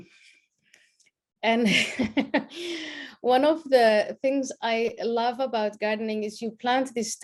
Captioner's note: laughs